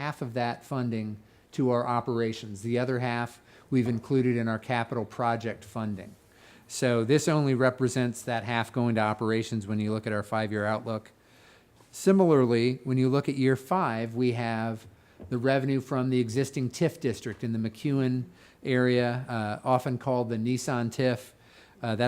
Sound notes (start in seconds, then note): none